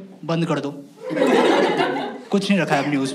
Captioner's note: laughs